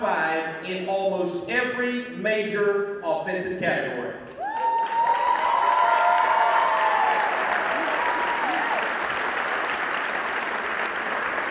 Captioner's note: cheering